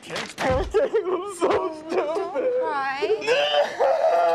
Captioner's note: loud fake crying